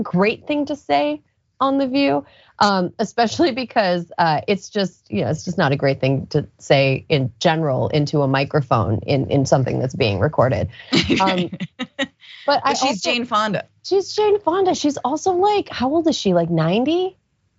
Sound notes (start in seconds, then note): 10.8 laugh